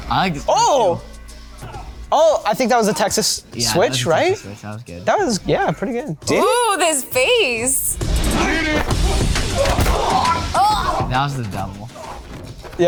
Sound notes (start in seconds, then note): 7.9 intense music; 8.8 fighters grunt; 10.5 Mary grunts